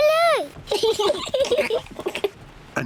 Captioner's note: both laugh